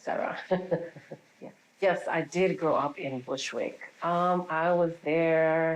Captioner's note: laughing